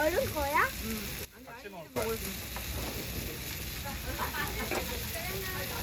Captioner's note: sizzling black bean noodles